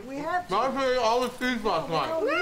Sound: Thomas mumbles about cheese

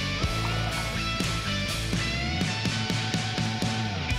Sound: water splashes

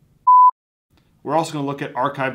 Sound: beep

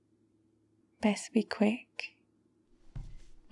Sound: footsteps

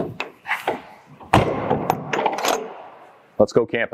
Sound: door shutting and latching sounds

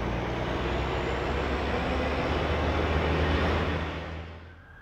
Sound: concrete mixer revs

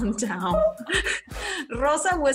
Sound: both laughing

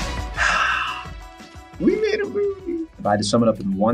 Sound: Jordan sighing

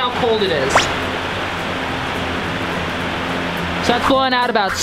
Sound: fan blowing

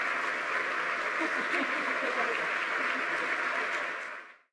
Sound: laughs

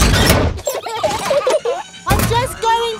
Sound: children giggling

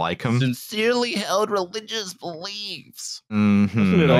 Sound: mocking voice

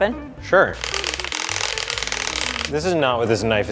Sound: cutting noises

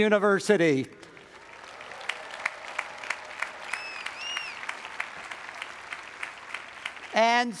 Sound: audience applauds; audience cheers

